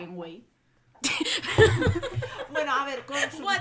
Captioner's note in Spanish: risas